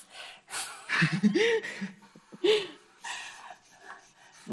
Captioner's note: laughs